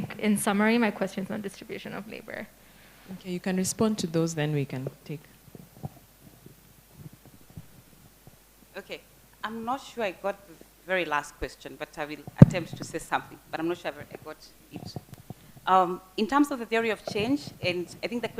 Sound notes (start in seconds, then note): 5.4 background chatter